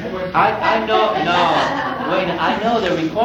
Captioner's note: laughter